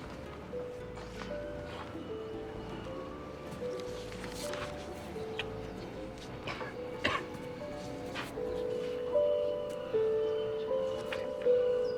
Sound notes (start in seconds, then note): 0.0 dramatic orchestral music; 6.4 coughs